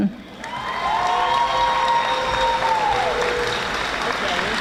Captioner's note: audience applauding